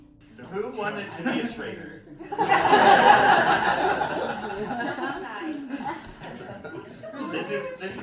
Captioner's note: laughter